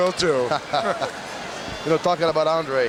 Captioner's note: both chuckling